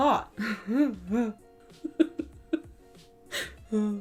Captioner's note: chuckling